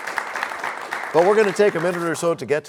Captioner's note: applause